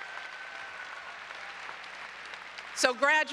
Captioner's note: applause